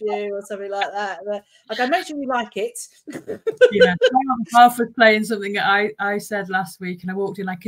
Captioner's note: laughing